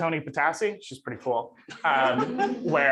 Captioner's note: laughter